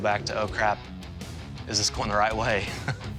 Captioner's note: chuckles